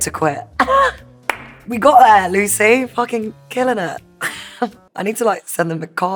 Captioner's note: laughs